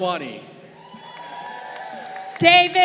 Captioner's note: crowd cheering